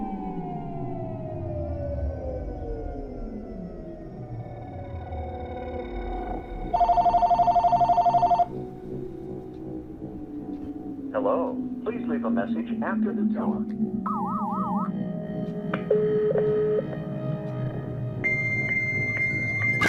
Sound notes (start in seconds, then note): 6.7 phone ringing; 14.0 beep?